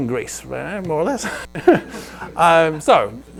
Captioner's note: laughs